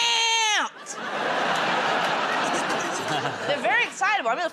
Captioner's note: laughter